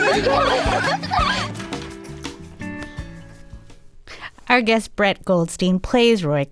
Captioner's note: laughter